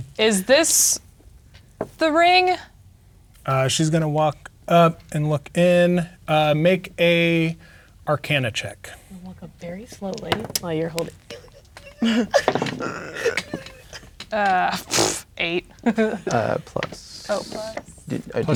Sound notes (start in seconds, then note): 10.1 dice rolling; 11.0 laughs; 11.0 imitates struggling; 14.6 blows raspberry